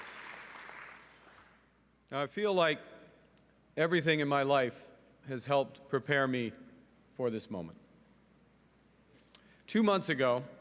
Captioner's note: cheering and Applause